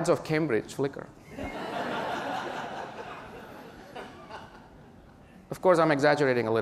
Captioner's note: laughter